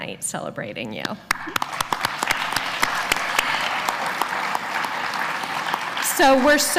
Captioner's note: applause